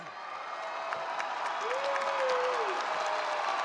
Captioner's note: applause